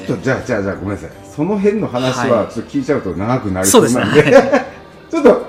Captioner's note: laugh